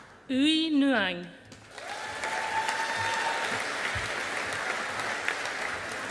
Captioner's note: audience applauding